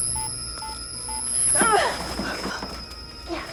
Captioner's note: grunts